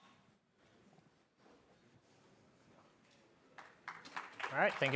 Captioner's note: applause